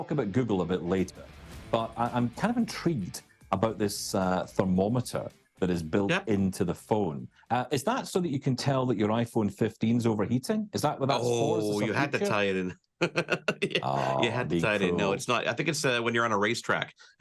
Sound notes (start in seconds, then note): 13.0 laughs